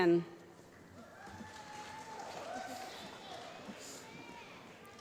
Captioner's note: applause